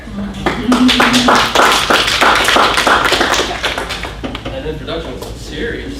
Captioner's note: audience applauds